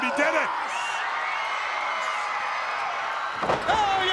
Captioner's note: crowd cheering